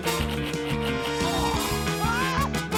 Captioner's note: exclaims; groans